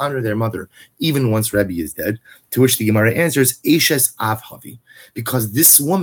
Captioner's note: Hebrew